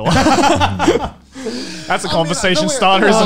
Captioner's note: laughing